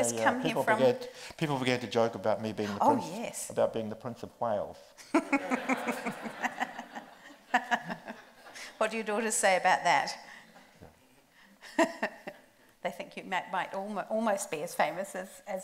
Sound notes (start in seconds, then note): 5.0 group laughs; 12.1 laughs